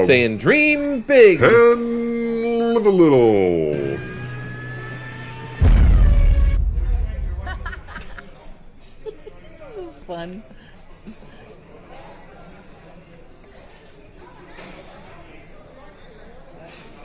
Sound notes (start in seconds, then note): 3.8 car engine revs and bangs; 7.4 crew 1 laughing